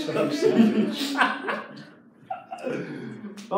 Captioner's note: laughing